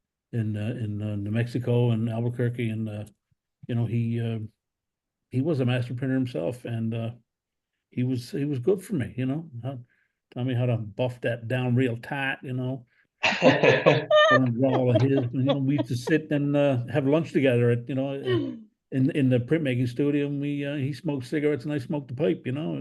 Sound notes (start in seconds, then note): 10.9 southern accent; 13.2 laugh